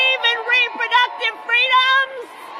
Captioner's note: applause